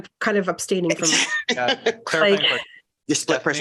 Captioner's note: laughter